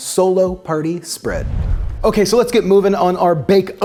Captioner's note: football whooshes